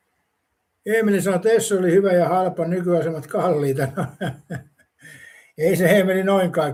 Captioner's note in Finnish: naurua